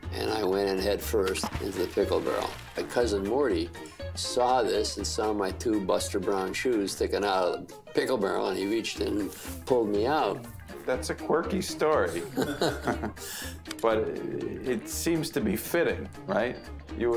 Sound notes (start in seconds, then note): 12.1 both laugh